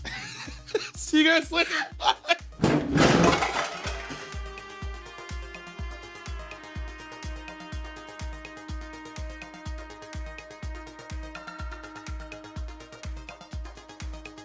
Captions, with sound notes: - See you guys later, bye. (door slams) (upbeat music) (upbeat music)